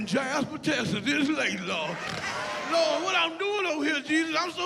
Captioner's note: enthusiastic chatter